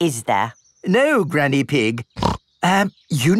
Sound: snorts

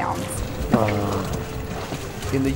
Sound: trumpeting noise

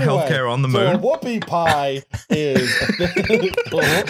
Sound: laughs

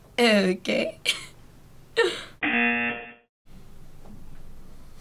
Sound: laughs; buzzer rings

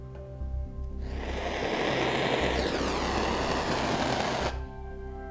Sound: loud flame from a gas burner

